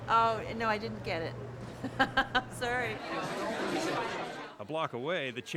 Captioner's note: laughs